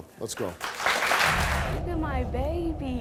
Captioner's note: audience clapping